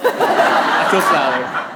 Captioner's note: audience laughing; laughing